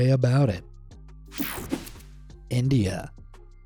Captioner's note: swoshing